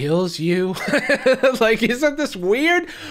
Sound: laughs

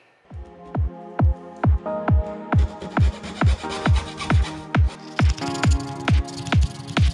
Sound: upbeat techno music; sawing

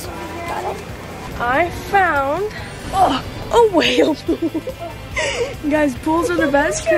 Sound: laughs

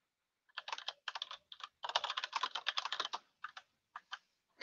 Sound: keyboard clicking

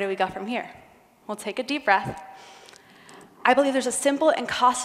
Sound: breathes deeply

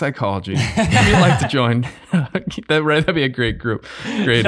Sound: group chuckling

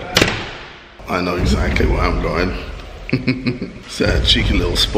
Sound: laughter

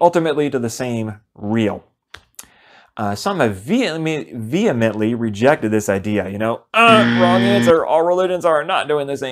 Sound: buzzer sound

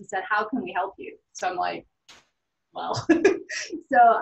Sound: laughs

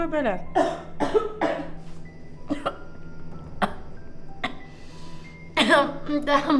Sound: coughing

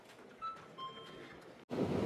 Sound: excited Taiwanese convenience store sound

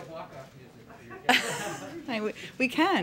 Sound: laughter

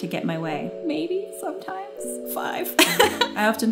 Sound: laughs

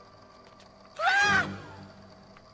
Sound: screams

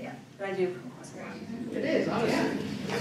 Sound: audience talking

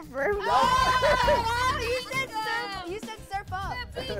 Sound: laughter

